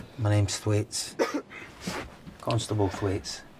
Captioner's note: Theo coughing